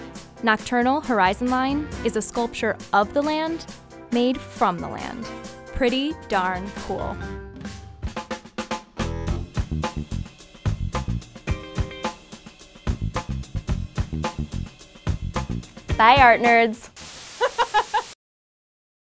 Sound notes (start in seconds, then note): 8.0 upbeat, jazzy music; 17.4 laughing